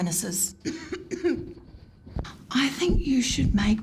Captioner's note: coughing